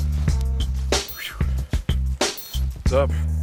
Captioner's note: sighing